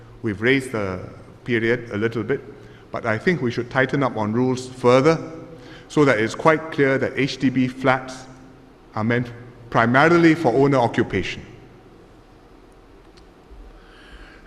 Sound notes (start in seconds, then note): none